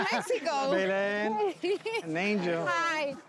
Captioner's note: laughs